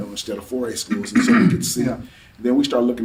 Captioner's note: clears throat